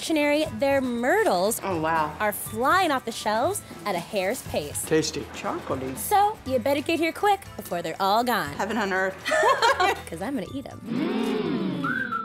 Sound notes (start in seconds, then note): 9.3 laughing